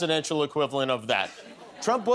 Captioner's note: laughter